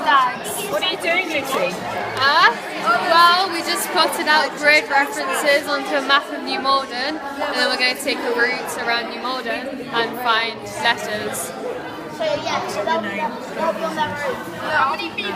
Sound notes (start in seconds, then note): none